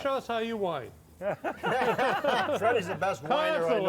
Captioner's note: all laugh